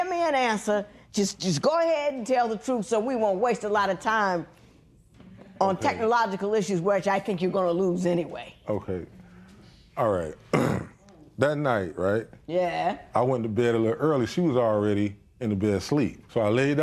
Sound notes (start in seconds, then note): 10.4 clears throat